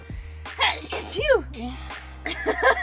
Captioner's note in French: éternuement